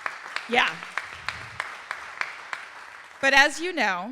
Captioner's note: audience applauding